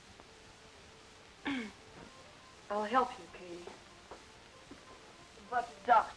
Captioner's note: clears throat